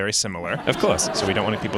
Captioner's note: laughter